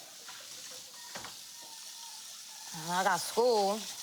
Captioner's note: sizzling continues